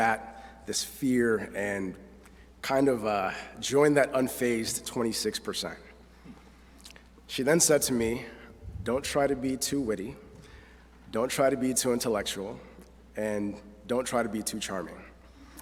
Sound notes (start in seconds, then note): none